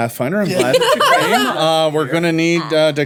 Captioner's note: women laughing